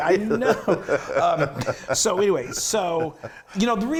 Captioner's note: laugh